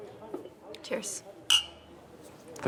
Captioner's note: glasses clink